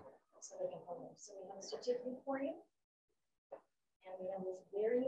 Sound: faintly speaking

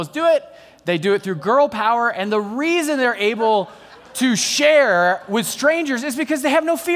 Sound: laughter

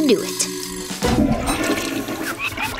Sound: toilet flushing

